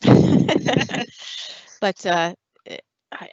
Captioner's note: laughter